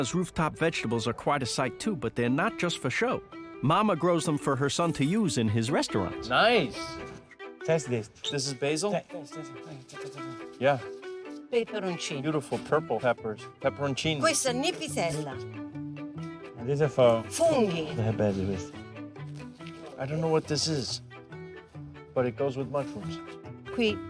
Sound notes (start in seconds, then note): 6.2 speaking Italian; 16.4 speaking Italian